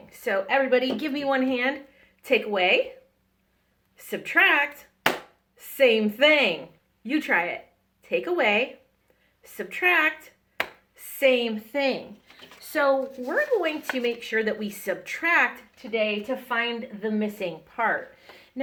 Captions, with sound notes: So, everybody give me one hand, take away, subtract. (Hand clap) Same thing. You try it, take away, subtract, (hand clap) same thing. So we're going to make sure that we subtract today to find the missing part.